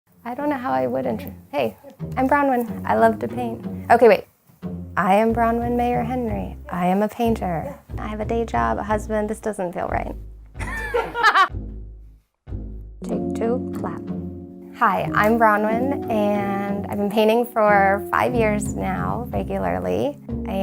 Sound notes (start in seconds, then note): 10.6 laughs